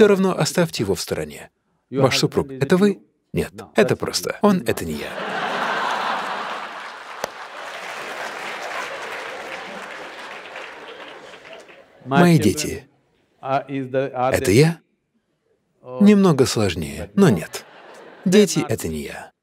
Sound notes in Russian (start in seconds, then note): 17.3 Смех